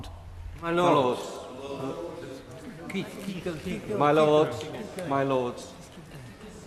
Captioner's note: members chatter